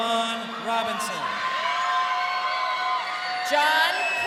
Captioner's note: crowd cheering